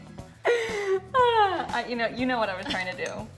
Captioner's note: laughter